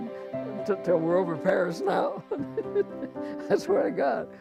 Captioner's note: chuckles